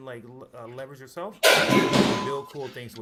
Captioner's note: crash